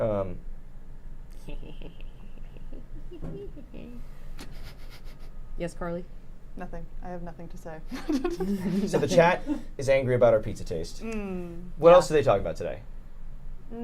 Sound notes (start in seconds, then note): 1.4 chuckling; 4.7 snickers; 7.9 laughs